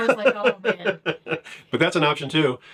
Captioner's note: laughs